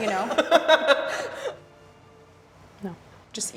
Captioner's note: laughing